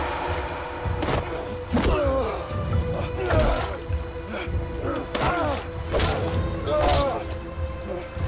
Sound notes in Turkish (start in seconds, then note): 1.7 Yumruk Sesleri; 5.8 Yumruk Sesleri